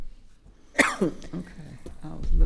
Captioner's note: coughs